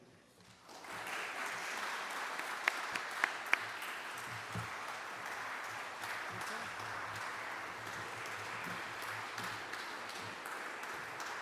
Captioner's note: applause